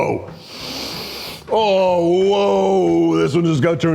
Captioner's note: sniffs